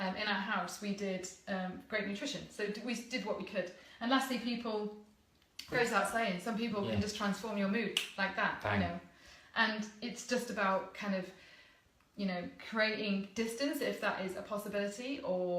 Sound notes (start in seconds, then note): 7.9 finger snapping